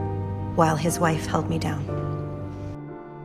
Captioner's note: voiceover